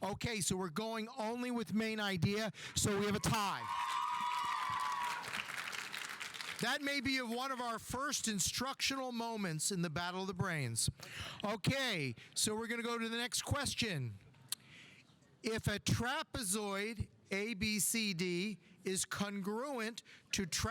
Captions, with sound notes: Okay, so we're going only with main idea. So, we have a tie. (audience applauding) (audience cheering) That may be one of our first instructional moments in the Battle of the Brains. Okay, so we're gonna go to the next question. If a trapezoid ABCD is congruent to trapezoid QRST,